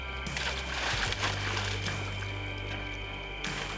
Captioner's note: water splashing